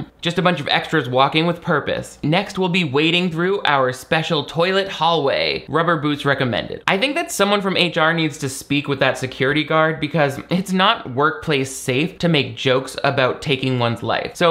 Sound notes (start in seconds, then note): none